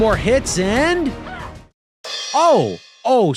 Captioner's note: shouts